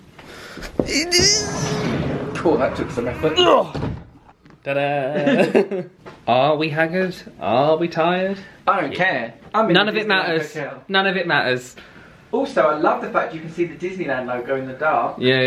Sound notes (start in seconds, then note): 0.7 strains; 5.6 laughs